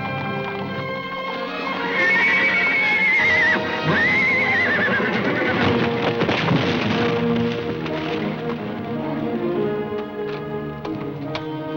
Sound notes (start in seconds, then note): 1.7 horse neighing; 5.8 thumping